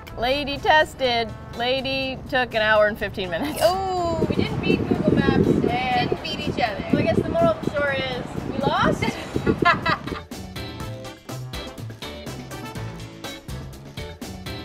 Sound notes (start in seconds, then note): 3.9 laughing; 9.0 laughing; 10.3 upbeat music